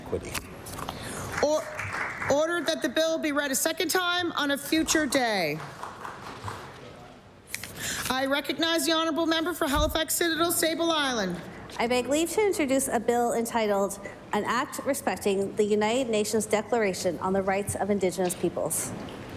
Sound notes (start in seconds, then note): 5.0 applause